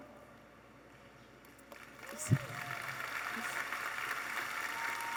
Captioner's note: audience applauding